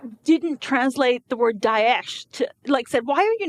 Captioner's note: speaking in foreign language